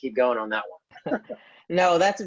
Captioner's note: laughs